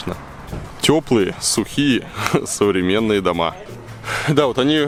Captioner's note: chuckles